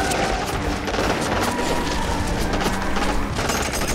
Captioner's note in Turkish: Silah sesleri